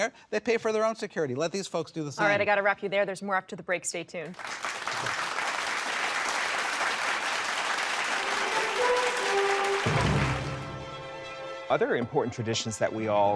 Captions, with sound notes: there's more after the break, stay tuned. [audience applauding] [exciting music] - Other important traditions that we all honor, for example, how Queen Victoria orchestrated her wedding,